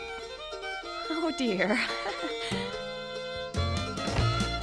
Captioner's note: laughing